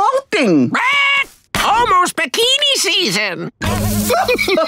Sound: squawking; laughing

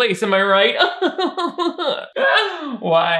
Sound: laughs

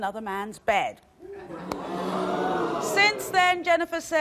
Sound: crowd moaning

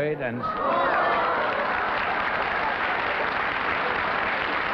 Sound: applause

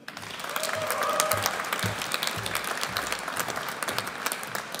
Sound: audience applauds

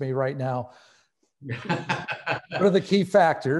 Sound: laughing

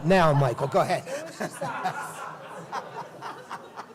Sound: laughter

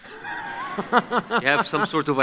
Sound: laughs

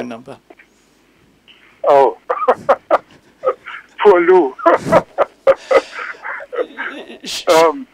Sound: laughs

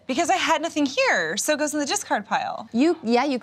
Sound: none

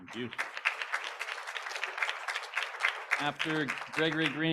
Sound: applause

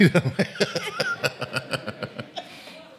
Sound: laughing

